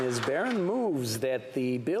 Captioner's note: applause